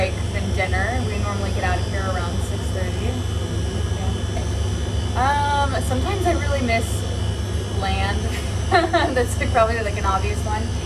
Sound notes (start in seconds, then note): 8.3 chuckles